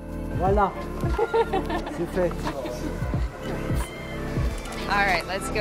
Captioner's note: foreign language; laughing